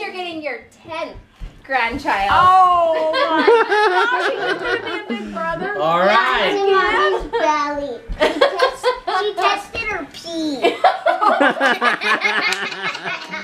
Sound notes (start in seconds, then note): 8.2 laughs; 10.7 all laugh